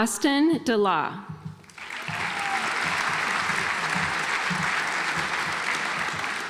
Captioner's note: audience applauds